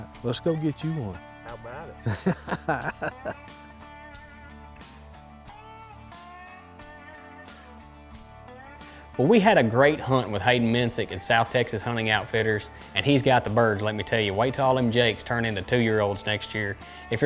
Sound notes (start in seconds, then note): 2.0 laughing; 5.1 instrumental country music